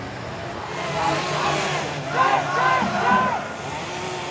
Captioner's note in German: Schreie